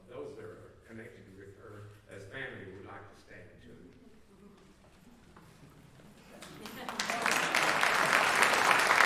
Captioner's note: applause